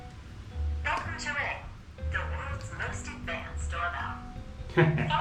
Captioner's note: device speaking